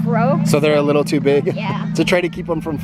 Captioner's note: laughs